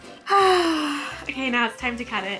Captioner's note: sighs